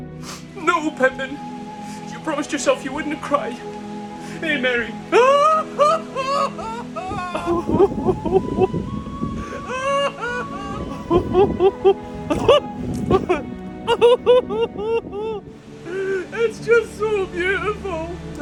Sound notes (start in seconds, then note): 4.2 sobbing uncontrollably